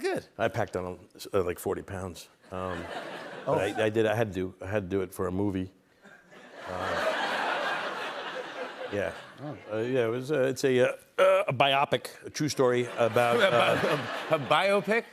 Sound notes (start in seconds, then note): 6.0 laughter